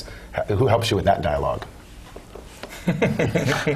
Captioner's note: laugh